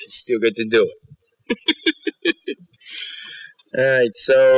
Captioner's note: laughs